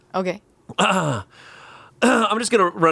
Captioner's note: clears throat